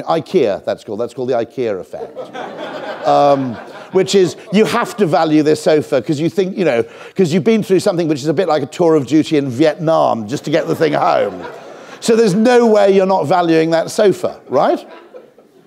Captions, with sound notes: Ikea, that's called, that's called the IKEA effect, [audience laughs] which is you have to value this sofa, 'cause you've been through something which is a bit like a tour of duty in Vietnam just to get the thing home. So there's no way you're not valuing that sofa, right?